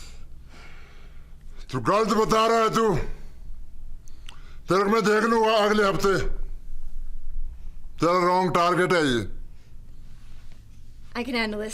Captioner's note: speaking foreign language